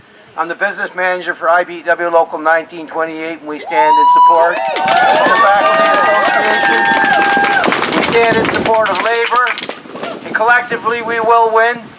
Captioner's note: applause